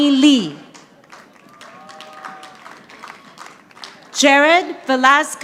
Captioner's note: audience applauding